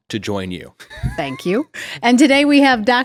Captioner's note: chuckles